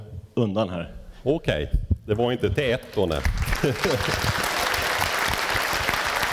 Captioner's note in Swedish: Applåder